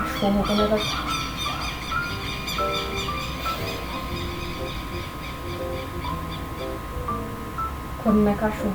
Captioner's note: "you called us?" in LOUD chirping